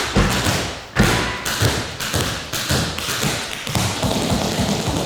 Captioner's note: tapping